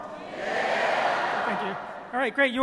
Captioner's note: crowd